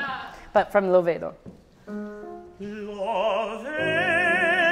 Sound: speaks in foreign language; singing in foreign language

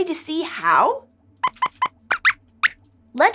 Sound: squeaks squeaks

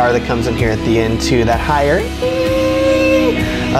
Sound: squealing

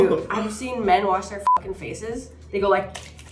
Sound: beep

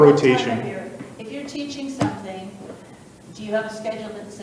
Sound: faintly speaks

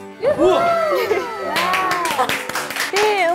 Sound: claps automatically

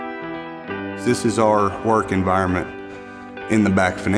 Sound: voiceover

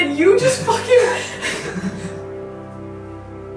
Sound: starts crying

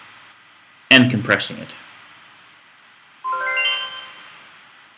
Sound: computer chimes

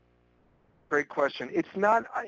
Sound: voiceover

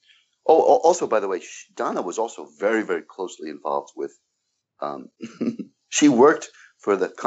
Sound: chuckles

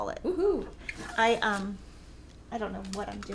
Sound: cheering

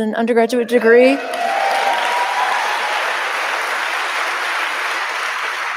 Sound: audience cheering

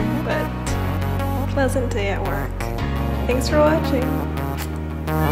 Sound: muah

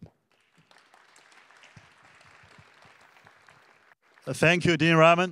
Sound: attendees clapping

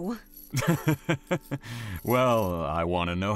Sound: chuckles

